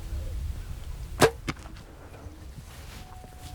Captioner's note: birds/cows; bow shoots